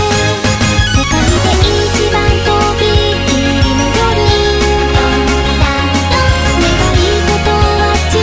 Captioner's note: ding dong dang dong